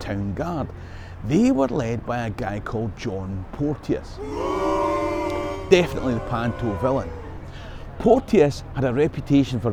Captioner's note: boo